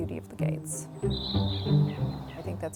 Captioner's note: birds Singing